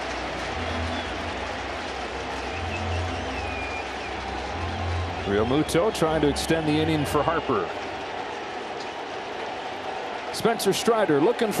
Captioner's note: applause